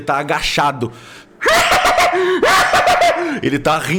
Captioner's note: manic laughter